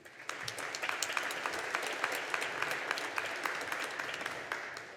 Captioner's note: audience applauding